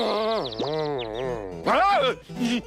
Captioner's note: groaning; nervous giggles